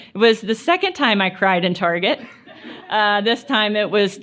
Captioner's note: laughter